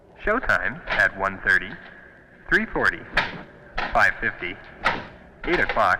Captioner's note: man On PA